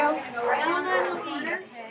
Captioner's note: dogs barking